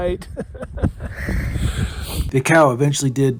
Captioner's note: laughing